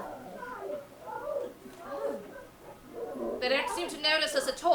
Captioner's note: Jack and Algernon yelling